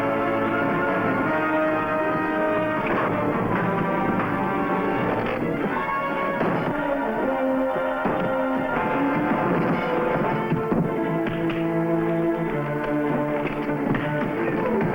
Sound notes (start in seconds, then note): 11.5 punches thudding